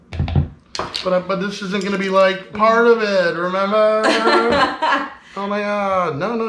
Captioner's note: chuckling